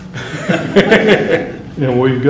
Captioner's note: laughter